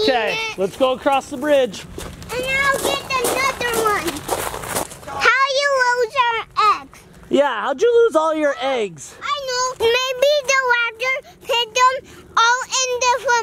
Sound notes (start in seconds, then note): none